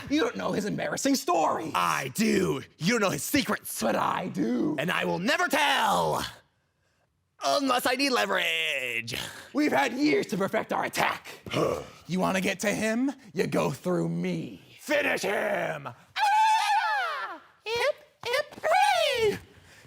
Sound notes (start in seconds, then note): 6.5 soft breathing; 11.5 grunt; 16.3 hollering